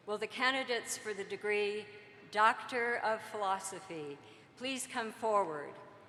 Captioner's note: none